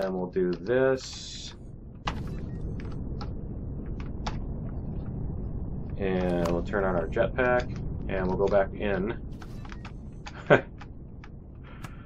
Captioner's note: laughs